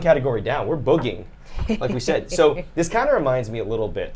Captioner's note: snickers